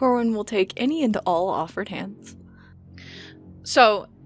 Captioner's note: A low, electric thrum begins in the background